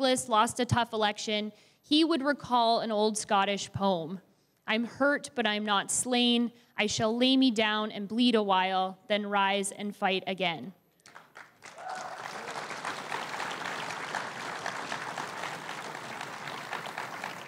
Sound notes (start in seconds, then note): 11.1 crowd cheering and applauding